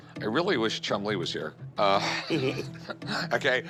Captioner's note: both laugh